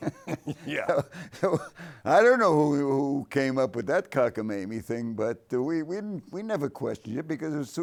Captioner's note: laughs